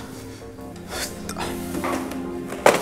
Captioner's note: Aniket gasps